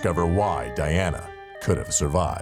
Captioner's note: ambulance siren sounding